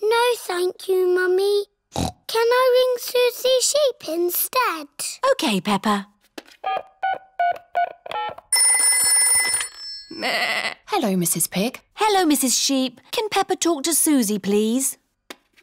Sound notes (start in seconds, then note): 1.9 snorts; 8.1 phone rings; 10.2 bleats